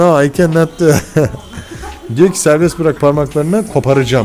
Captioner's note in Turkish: kahkaha